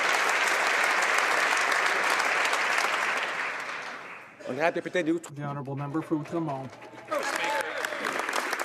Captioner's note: some Applause